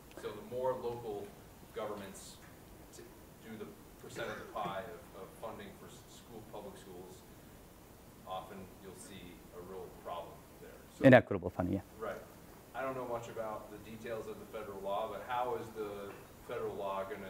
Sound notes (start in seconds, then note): 12.5 voiceover